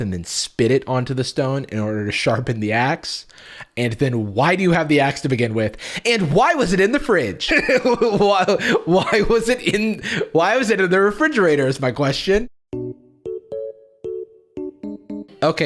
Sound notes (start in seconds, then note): 7.6 laughs; 12.7 music